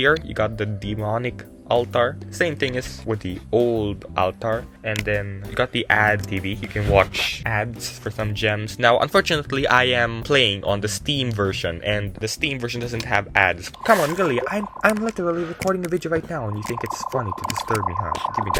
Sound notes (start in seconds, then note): 13.8 blue Particle sound effect